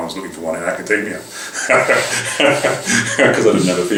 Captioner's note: laugh